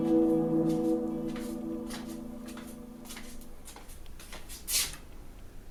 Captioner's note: footsteps plodding